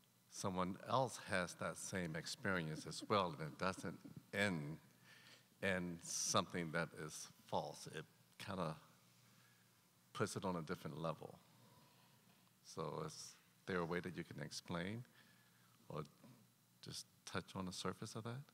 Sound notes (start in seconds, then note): 2.5 chuckling